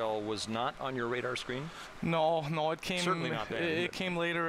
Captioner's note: laughter